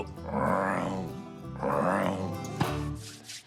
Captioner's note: croaking